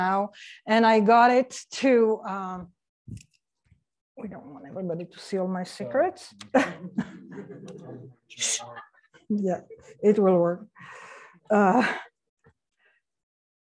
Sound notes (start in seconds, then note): 6.4 laughs